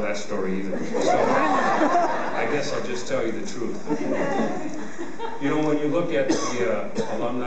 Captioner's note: laughter